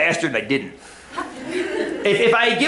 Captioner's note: laughter